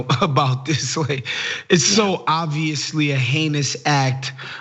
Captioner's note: laugh